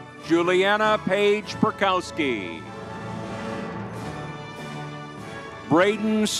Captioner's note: crowd cheering